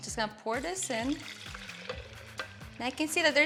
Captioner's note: milk gurgling